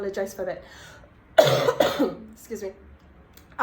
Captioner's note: coughs